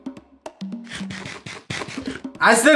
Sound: crunching

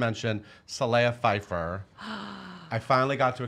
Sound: gasping

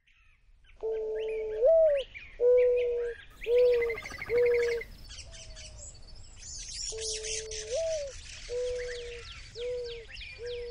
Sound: dove cooing, birds chirping and calling

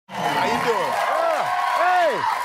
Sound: cheering

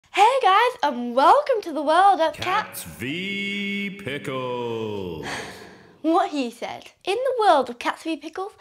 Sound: sigh

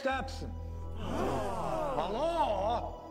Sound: crowd

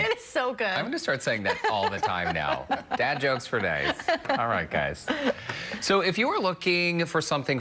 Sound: laughter

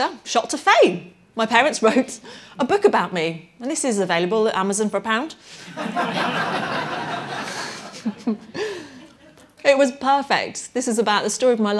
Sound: laughter

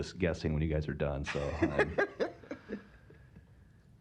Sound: laughs

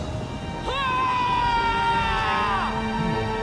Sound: screams

